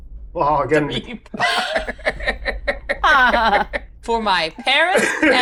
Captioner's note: laughs